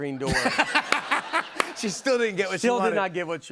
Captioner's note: laughs